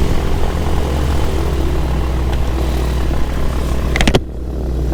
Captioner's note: plane engine rumbles